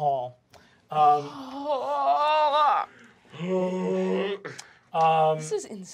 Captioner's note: anguished moaning